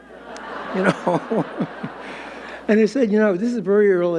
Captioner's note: audience laughing